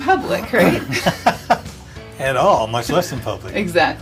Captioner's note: laughs